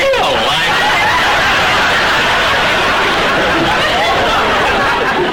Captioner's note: audience laughter